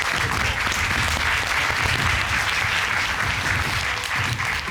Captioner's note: applause